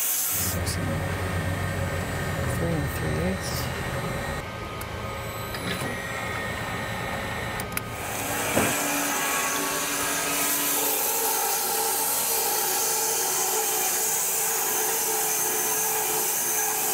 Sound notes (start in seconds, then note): 0.7 motor rumbling; 8.8 saw blade humming